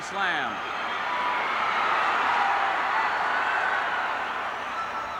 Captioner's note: crowd cheers